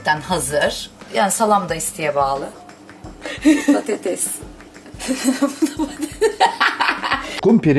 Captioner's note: laughter